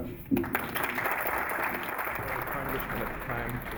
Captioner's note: applause